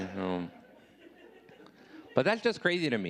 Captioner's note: audience laughing